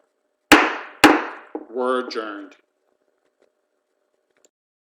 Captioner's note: gavel rapping